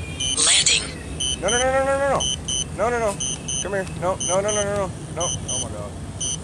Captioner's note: constant beeping and freaking out; constant beeping